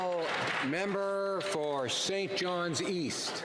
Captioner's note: some Applause